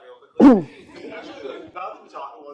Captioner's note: laughter